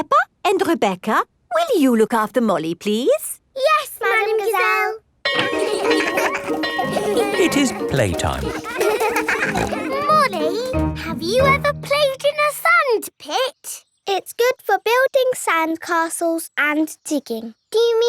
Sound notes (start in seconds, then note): 5.2 bell ringing; 5.4 laughing; 8.2 peppa snorting